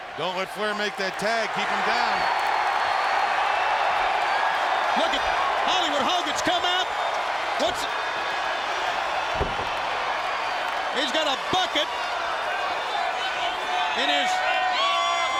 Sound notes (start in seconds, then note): 3.0 audience cheering; 7.9 audience cheering